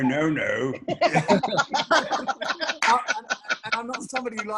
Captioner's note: group laughs